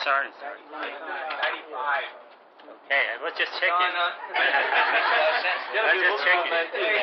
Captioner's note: gülüyorlar